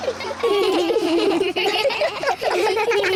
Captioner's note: all giggle